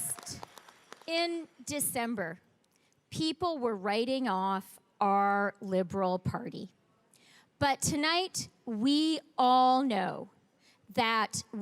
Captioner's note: cheering and applause